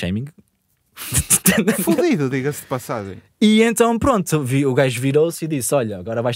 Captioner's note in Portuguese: risos